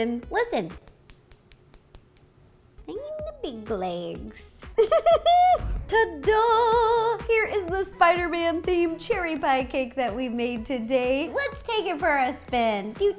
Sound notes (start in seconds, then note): 4.7 giggles